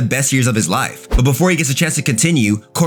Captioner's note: air whooshing